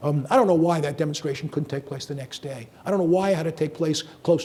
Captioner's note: none